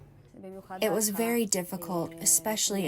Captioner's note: through translator